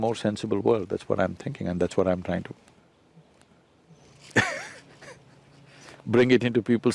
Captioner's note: laughs